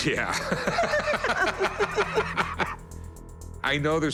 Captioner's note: laughter